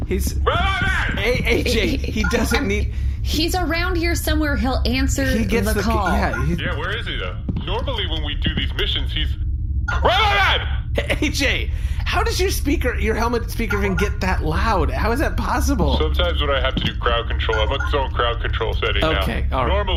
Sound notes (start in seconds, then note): 10.0 shouting